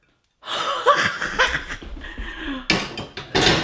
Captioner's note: cheering